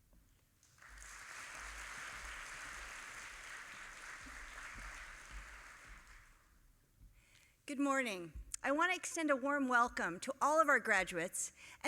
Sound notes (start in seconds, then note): 0.6 audience applauding